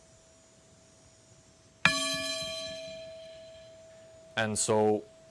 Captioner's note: bowl clanging again